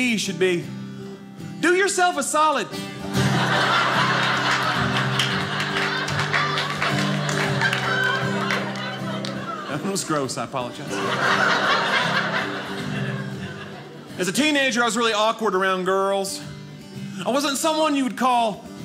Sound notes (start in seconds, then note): 3.3 audience laughing; 6.3 guitar playing; 11.3 guitar playing